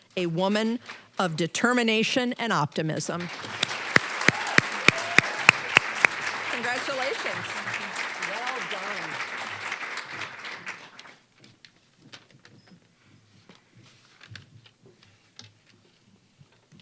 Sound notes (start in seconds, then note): 3.1 applause